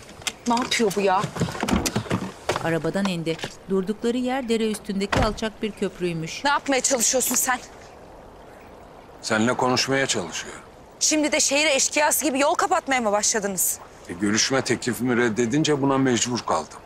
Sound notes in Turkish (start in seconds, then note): 1.6 Kapı açılma sesi; 5.0 Kapı kapanma sesi